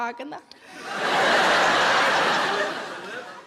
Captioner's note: audience laughs